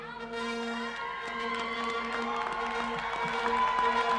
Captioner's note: cheering